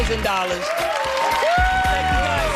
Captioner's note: cheers